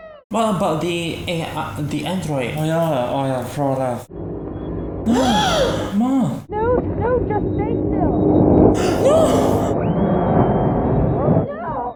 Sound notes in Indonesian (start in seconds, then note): 8.8 Jeritan